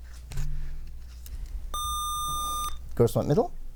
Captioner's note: buzzer